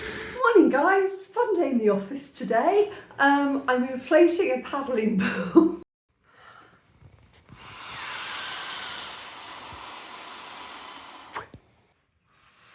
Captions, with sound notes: Morning guys. It's Sunday in the office today. Um, I'm inflating a paddling. [laughter] [puffing]